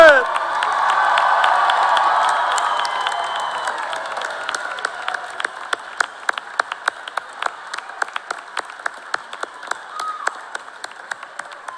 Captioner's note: cheers and applause